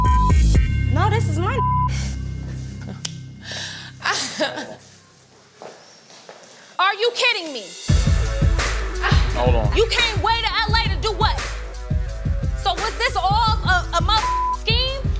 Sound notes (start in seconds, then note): 4.0 laughing